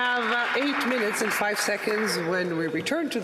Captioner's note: some Applause